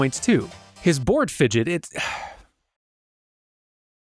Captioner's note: sigh